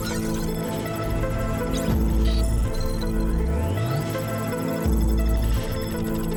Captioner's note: digital beeping